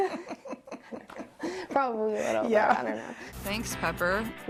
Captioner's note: laughing